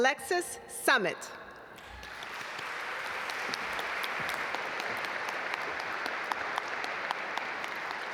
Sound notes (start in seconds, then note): 1.8 audience applaud